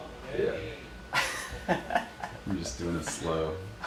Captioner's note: laughing